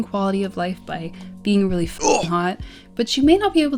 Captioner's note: grunt